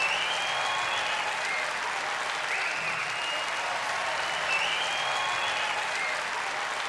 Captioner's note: applause